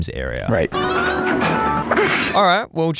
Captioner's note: video games sounds